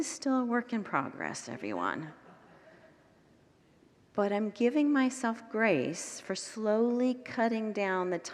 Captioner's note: congregants laugh